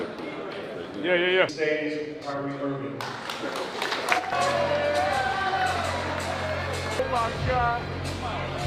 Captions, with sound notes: Yeah, yeah, yeah. (Crowd Cheering) (Upbeat Music)